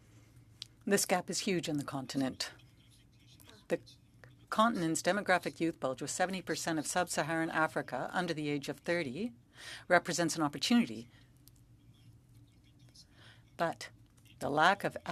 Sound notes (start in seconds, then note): 7.6 speaking French